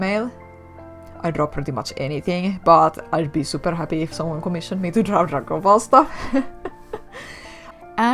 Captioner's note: laugh